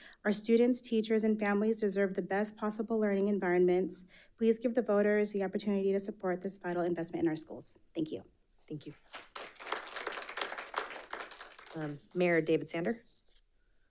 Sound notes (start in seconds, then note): 9.1 audience applauding